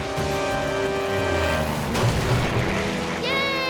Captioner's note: plane rumbles